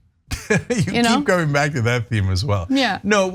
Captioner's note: laugh